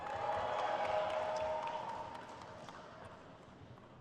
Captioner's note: crowd cheers